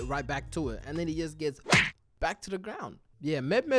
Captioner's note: smack